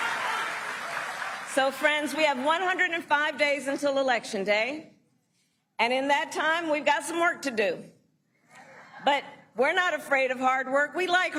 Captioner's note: applause